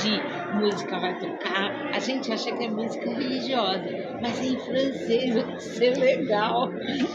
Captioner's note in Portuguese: limpando a garganta